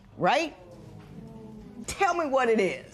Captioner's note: spectators murmur